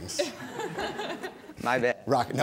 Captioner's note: audience laughing